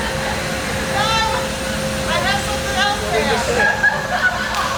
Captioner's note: giggles